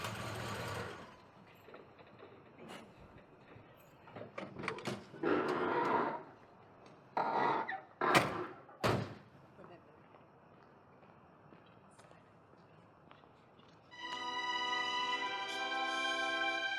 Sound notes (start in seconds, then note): 5.1 car door creaks; 13.9 bright music